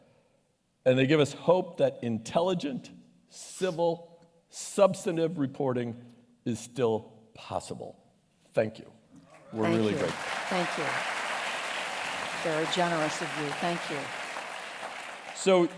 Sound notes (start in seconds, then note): 12.3 applause